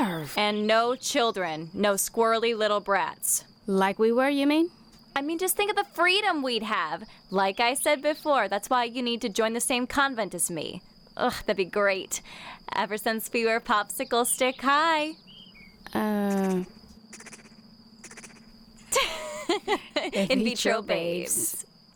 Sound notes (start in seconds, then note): 17.0 squirrels chucking; 18.9 laughter